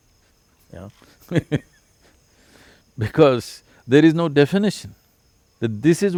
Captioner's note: laughs